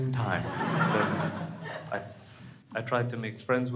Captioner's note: crowd laughs